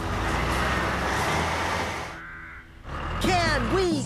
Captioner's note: engines Running